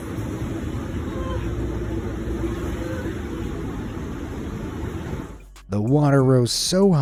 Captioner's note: water roaring